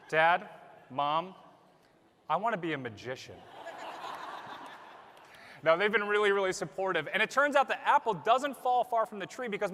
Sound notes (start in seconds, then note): 3.4 laughter